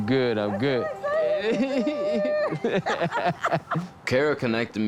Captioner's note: both laughing